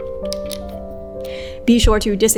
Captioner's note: bobbin clicks